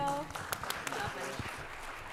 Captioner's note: audience clapping